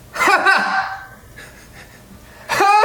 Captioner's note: laughs